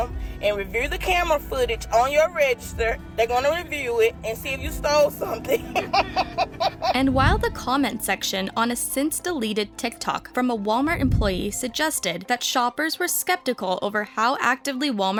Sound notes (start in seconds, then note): 5.4 laughing